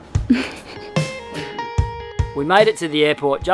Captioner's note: giggles